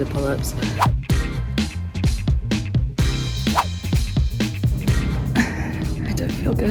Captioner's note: upbeat music; whoosh